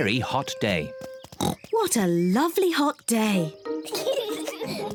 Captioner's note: oinks; peppa and george giggle